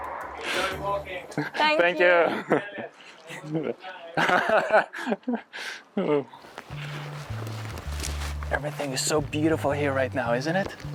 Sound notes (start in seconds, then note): 2.4 chuckling